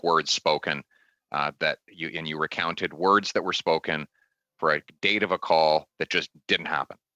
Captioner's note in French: voix de l'interprète